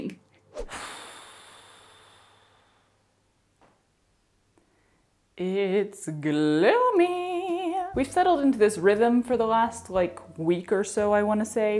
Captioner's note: extremely dramatic sigh